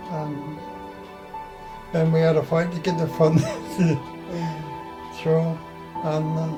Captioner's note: laughs